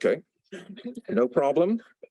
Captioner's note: laughter